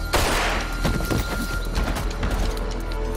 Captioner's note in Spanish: Disparos